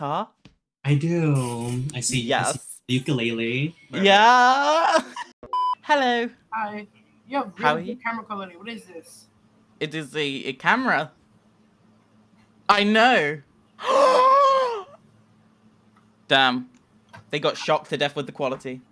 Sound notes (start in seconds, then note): 13.3 she sharply gasps